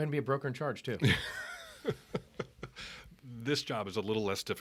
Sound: laughing

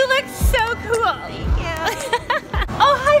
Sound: laughs

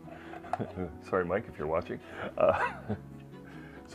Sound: laughing

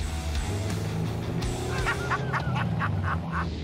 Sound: laughing

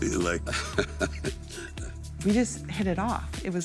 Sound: laughing

